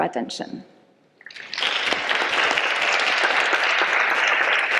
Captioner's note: audience applause